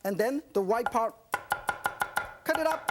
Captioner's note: chopping